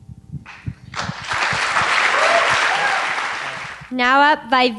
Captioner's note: applause